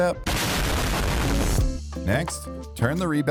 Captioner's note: bomb explodes